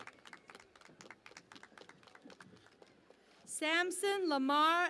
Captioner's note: cheering and Applause